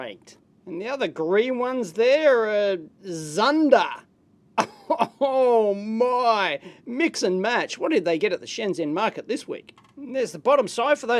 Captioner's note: laughs